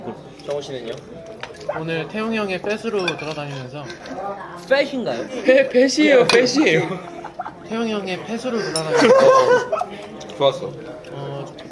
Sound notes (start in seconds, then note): 6.8 laughing